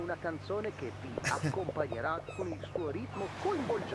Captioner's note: radio chatter